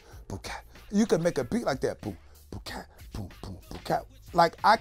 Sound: imitates instrument sounds

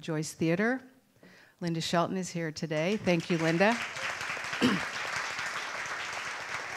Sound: applause

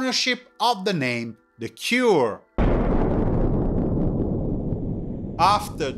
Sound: bomb exploding

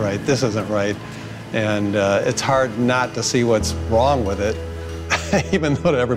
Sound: laughs

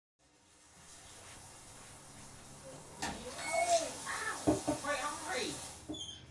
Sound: water dripping in the distance

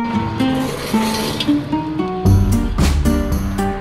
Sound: truck drives

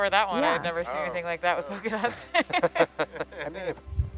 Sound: laughs

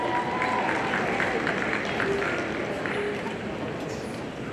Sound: audience applauding

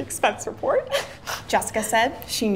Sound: giggles

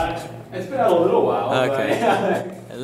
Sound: laughs

